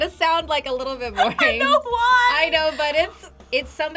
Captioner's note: laughs